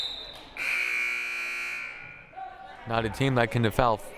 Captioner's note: whistle blaring; buzzer blaring